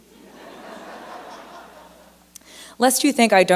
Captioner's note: laughter